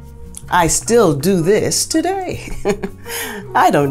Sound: laughs

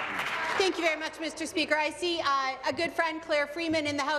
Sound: applause

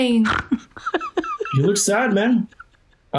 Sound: woman snorts

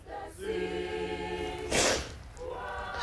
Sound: sniffing

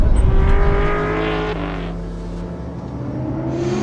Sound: engine roaring

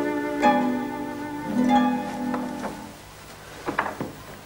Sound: none

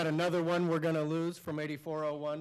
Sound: applause

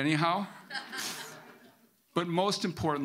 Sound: audience laughing

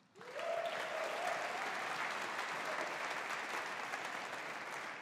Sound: audience applauding

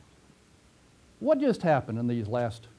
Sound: pause

